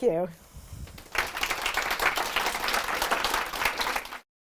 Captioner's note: audience applauds